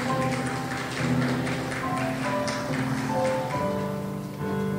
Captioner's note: crowd applauds